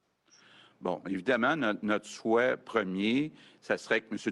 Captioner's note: speaks French